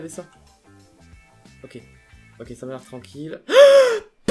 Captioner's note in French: cri